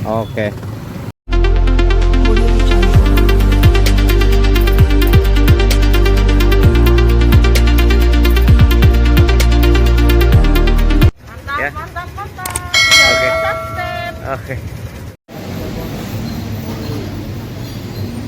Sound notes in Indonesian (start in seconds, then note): 12.6 lonceng